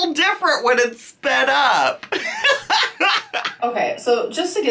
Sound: laughs

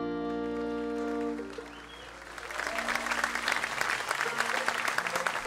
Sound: audience cheers and applauds

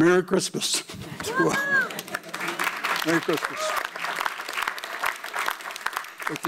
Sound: audience cheers and applauds

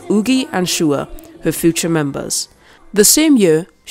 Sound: none

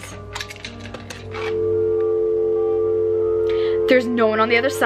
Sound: dial tone

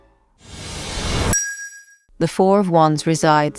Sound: whoosh sound

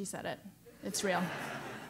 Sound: laugh

